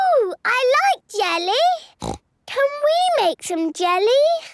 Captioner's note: snorts